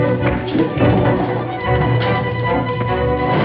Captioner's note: thuds